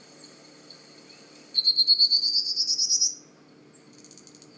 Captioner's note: Prairie warbler singing